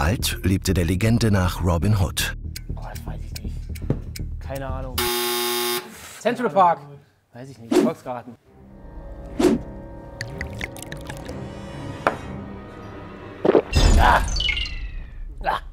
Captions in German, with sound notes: Boah, das weiß ich nicht. Keine Ahnung. Central Park. - Weiß ich nicht, Volksgarten. (Unheilvolle Musik) (Gluckern) Ah! Ah!